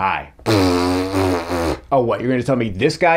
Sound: Writer's Block blows raspberries

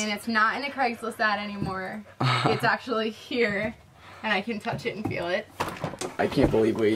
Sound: laughs

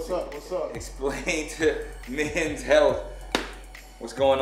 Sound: laughs

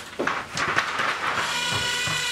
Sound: clunking; buzzing

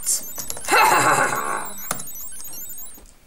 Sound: evil Laughter

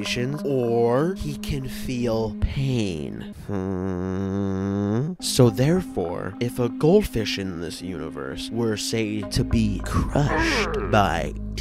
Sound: thwomp noise

